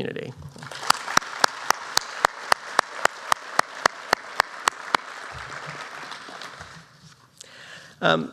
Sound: applause

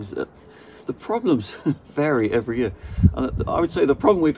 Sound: chuckles

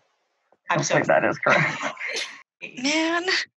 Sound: laughing

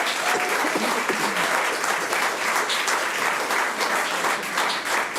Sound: audience applauds

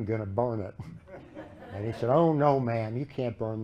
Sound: laughter

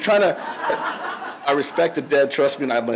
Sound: audience laughs

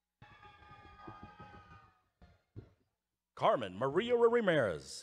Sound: audience cheering

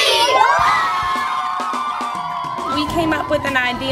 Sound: cheering

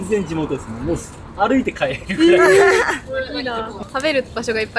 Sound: laughs

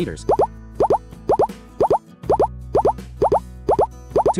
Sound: speed of sounds increases

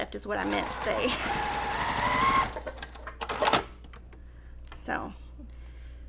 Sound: sewing machine resounding

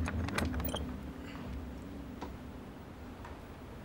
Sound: trunk creaking

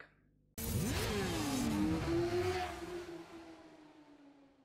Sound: motorcycle engines roaring

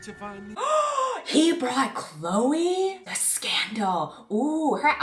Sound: gasp

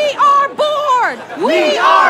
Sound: chanting

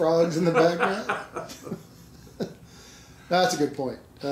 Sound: laughing

